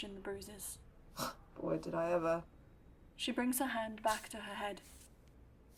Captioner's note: Mary snorts